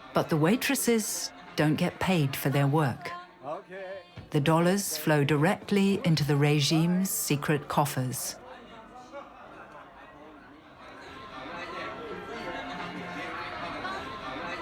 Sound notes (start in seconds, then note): 9.9 chatter